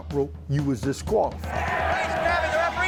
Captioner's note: audience cheering